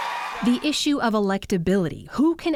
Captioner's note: cheering and applause